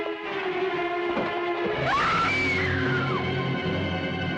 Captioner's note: scream